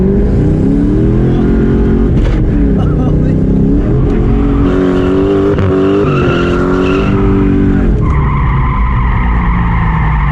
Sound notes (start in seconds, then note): 4.5 engine continues roaring, tires start screeching